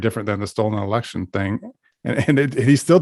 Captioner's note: laughs